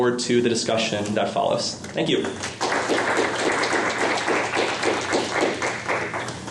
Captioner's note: applause